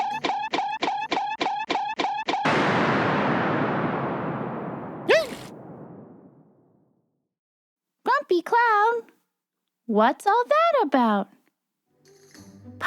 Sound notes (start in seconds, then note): 0.3 tail bonking; 2.4 thunder